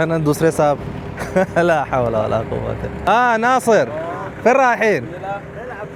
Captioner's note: Arabic